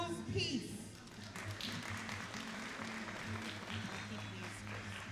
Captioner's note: all applauding